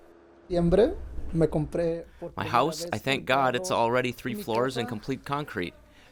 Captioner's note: through translator